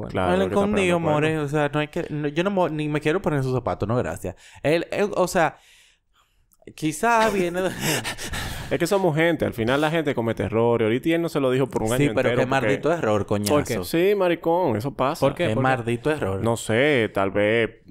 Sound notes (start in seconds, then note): 7.2 laughs; 8.1 snort